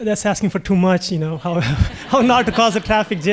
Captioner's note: laughing